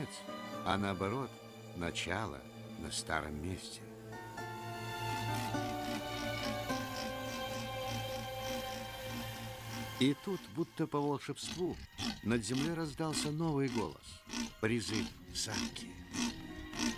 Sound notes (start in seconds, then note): 7.4 leopard sawing